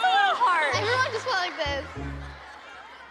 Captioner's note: audience laughs